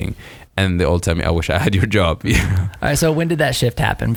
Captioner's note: laughs